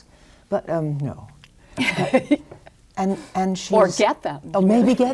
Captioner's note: laughs